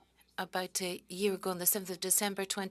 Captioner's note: speaking French